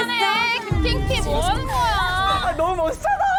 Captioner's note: serious sound effect